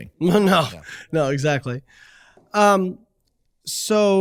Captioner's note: chuckles